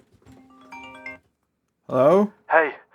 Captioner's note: phone rings